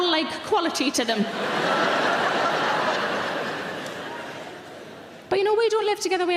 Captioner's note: audience laughing loudly